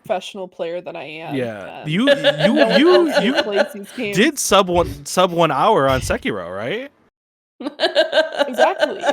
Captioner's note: laughing